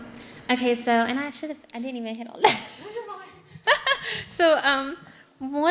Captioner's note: laughs